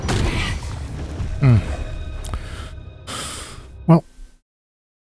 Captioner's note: sighs